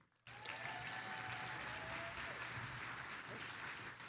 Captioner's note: attendees applauding